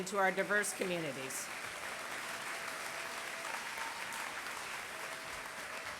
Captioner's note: applause